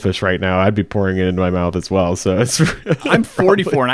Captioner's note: laughs